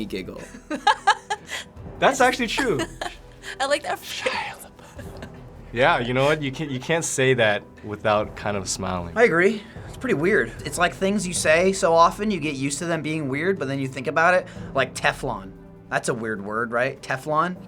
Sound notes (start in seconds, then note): 0.4 laughs; 3.8 whispering